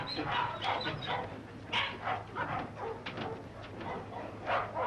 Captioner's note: dogs whimpering